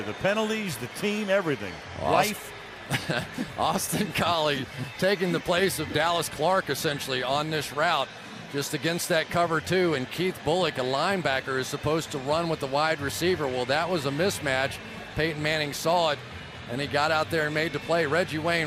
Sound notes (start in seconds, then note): 2.8 chuckles